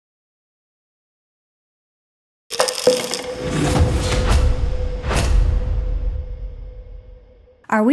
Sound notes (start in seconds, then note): 2.5 container rattling; 3.9 words thumping